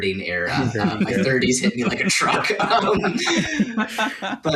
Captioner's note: laughter